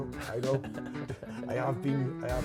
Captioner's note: upbeat music; chuckles